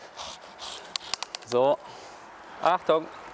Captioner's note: cracking